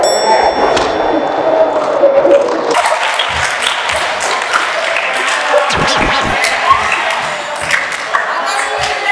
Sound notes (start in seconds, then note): 2.7 everyone clapping and bursting laughing